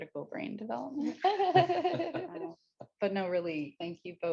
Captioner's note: laugh